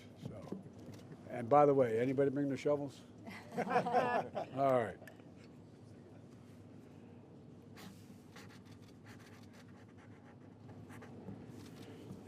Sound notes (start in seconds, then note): 3.2 laughter